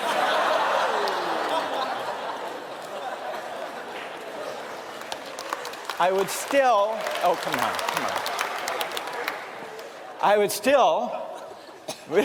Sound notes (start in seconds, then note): 0.0 laughter; 4.4 applause